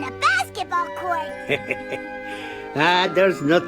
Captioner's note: chuckles